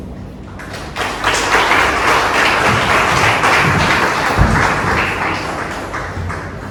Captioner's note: clapping